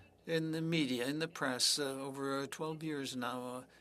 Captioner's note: speaking French